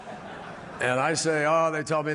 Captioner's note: laughter